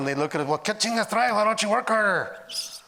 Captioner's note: speaking Spanish